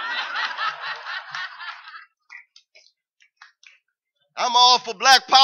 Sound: laughter

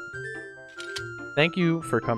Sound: click

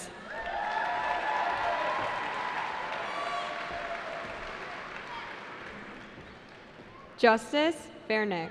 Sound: cheering

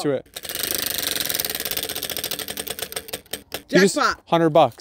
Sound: wheel whirring

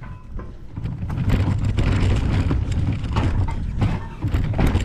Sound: wheels scraping

